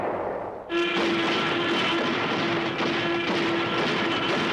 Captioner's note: artillery firing